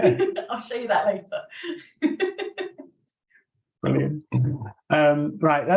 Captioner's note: laughs